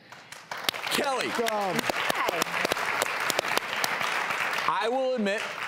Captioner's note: applause